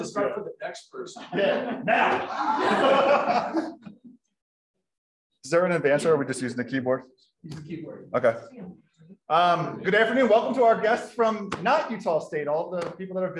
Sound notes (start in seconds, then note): 2.7 groaning; 3.6 laughing